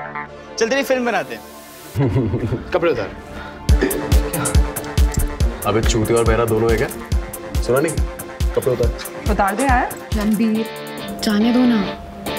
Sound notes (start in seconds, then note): 2.0 Giggle